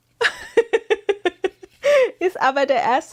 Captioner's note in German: gelächter